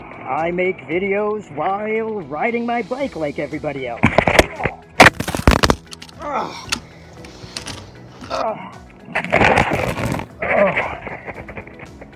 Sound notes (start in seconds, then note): 4.3 groans; 5.0 bike clatters